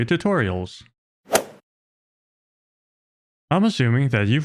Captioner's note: golf ball hit sound